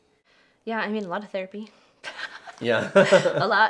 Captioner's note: laughs